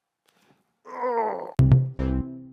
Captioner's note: grunts; logo pops